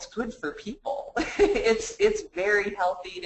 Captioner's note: laughs